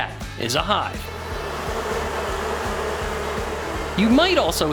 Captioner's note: loud Buzzing